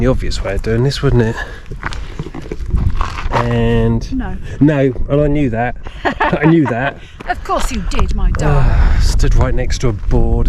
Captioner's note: laughs